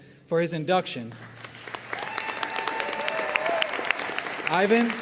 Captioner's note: audience cheering and applauding